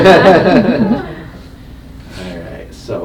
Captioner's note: both laughing